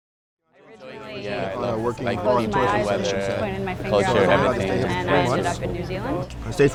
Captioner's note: people chattering